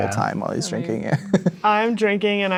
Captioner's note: chuckles